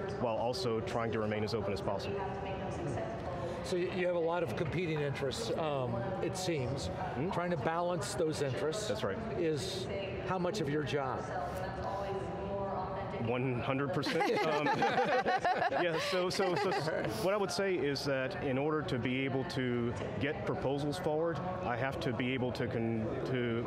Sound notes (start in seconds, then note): 14.1 laughing